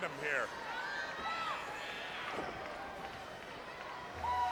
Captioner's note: crowd bustling